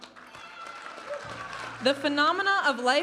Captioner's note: audience applauding and cheering